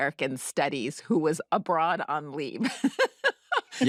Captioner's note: laughs